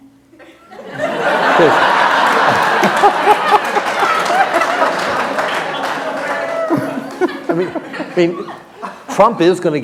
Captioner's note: laughter